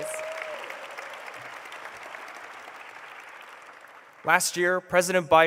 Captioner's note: applause